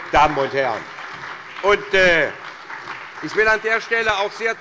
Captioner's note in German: Beifall bei Abgeordneten der CDU, der SPD, der GRÜNEN, und der FDP